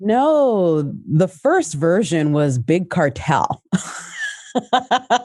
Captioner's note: laughs